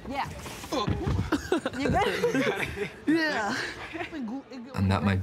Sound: groans, laughs

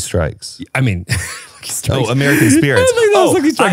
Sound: laughing

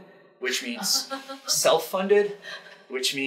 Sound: audience laughing

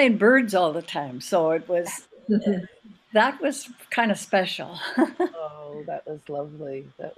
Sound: laughs

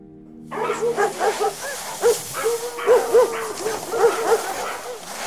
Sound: dog sled sounds

